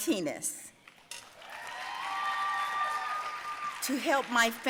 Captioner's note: audience cheering and applauding